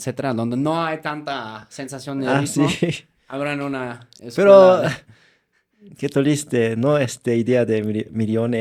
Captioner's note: laughter